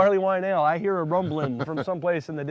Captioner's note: laughing